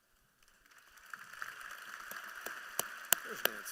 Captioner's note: applause